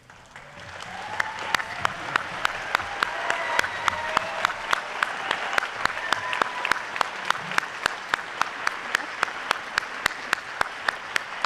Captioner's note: audience applauding